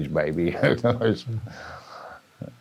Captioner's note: laughs